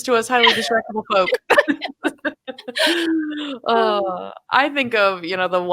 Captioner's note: laughing